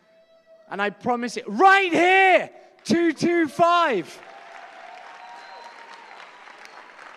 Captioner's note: applause